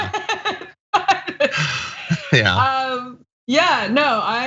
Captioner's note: laugh